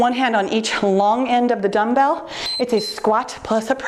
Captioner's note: timer beeps